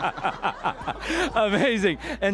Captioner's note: laughter